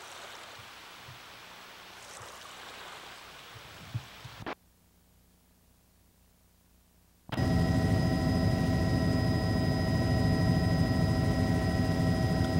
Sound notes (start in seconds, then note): 7.3 engine whining